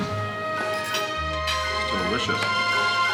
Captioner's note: silverware clinking